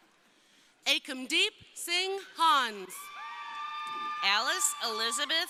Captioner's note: crowd cheering